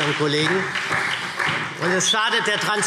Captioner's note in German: Beifall SPD